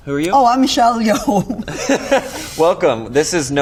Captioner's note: laughs